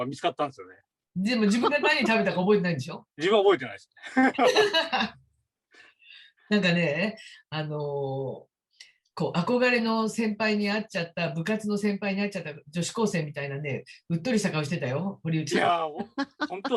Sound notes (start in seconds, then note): 5.8 haha